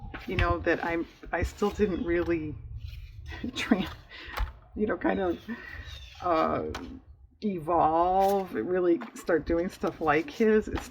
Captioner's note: laughs